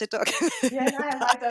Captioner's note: laughs